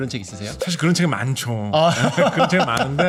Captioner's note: humorous sound effect; laughter